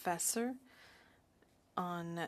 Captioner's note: speaking in French